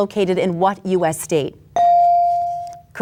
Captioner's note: bell dings